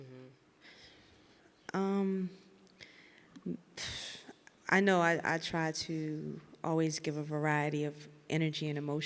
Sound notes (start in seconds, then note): 2.8 exhales sharply